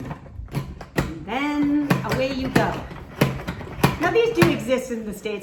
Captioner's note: pumping sounds